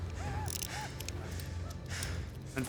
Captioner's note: gun clicking; panting